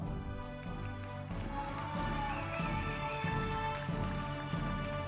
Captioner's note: audience cheering